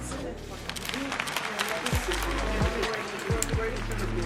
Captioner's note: audience clapping